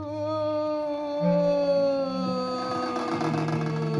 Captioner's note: woman moaning